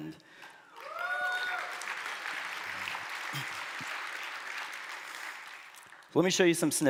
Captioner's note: applause